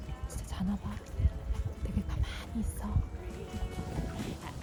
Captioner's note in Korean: 소근소근